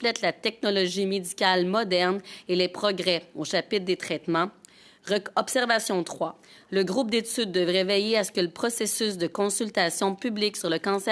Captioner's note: speaking in French